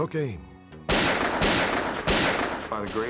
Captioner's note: gunshots